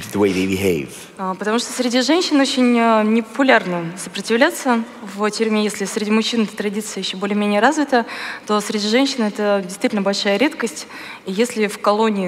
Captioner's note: foreign Language